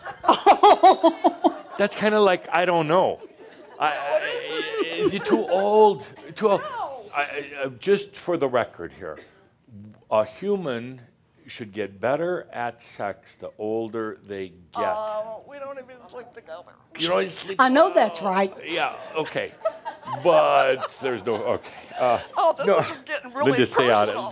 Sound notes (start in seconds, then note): 3.3 laughing; 20.0 she’s giggling; 21.6 she chuckles